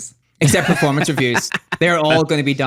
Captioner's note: laughs